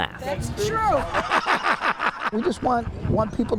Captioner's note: laughs